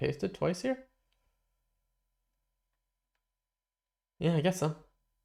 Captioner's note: silence